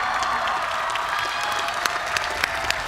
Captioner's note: cheers and applause